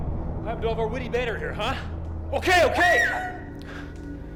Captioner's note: she screams